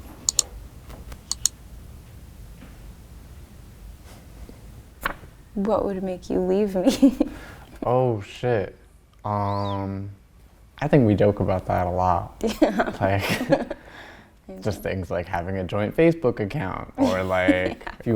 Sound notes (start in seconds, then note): 1.1 mouse clicking; 5.0 paper flapping; 7.5 laughs; 12.4 laughs